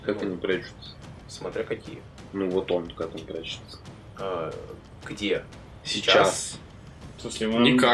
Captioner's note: confused